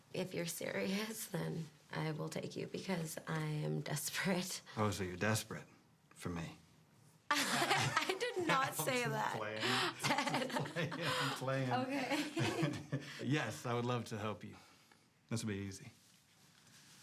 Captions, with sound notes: If you're serious, then I will take you, because I am desperate. - Oh, so you're desperate for me? (both laughing) - I did not say that. - I'm just playing it. I'm playing. - Okay. - Yes, I would love to help you. This will be easy.